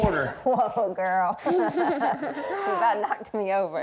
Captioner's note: laughing